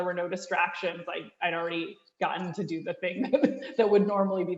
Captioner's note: chuckles